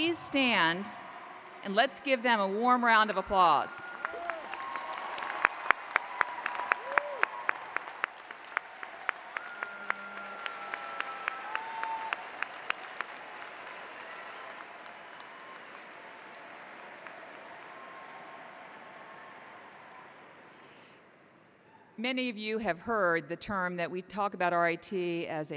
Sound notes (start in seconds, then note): 3.9 applause